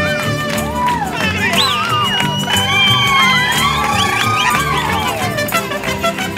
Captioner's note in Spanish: Gritos y cantos